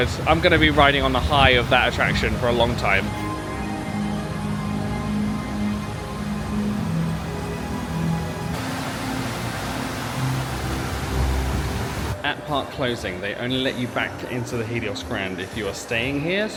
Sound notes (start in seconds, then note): 3.4 dramatic music; 8.5 water gushing